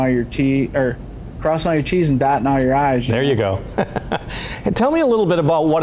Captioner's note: laughs